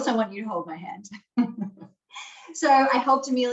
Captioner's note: laughing